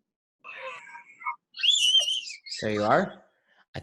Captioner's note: child screaming